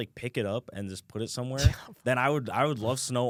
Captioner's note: laughs